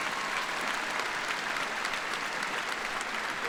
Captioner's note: applause